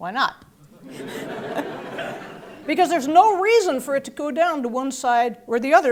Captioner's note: laugh